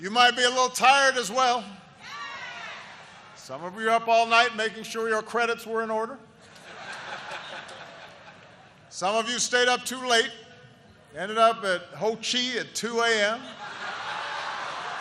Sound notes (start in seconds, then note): 6.4 laughter